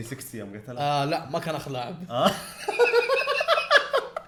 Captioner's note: laughter